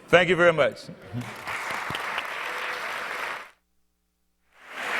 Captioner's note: audience applause